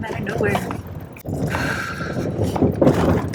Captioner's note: breathes out